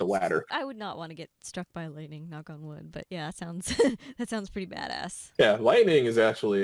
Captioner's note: laughing